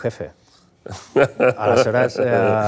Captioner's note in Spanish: risas